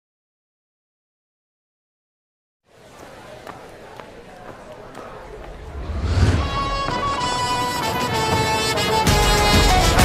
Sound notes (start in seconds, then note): 2.6 crowd conversation